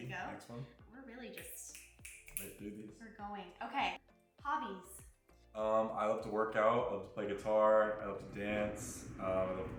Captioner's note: snaps